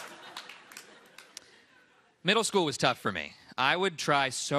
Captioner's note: laughter